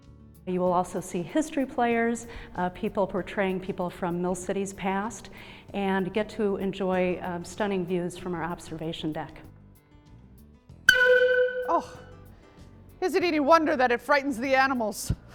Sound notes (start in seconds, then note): 10.9 loud whistle